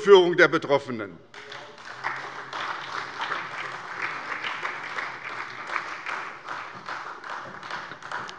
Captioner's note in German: Beifall bei der SPD